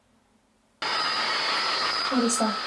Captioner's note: static crackles